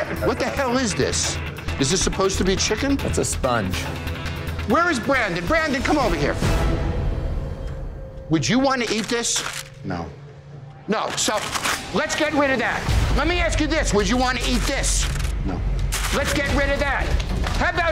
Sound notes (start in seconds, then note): 6.6 dramatic music fades; 11.0 paper crinkling; 13.6 dramatic music